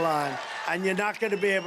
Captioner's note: cheering and applause